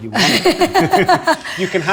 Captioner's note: both laughing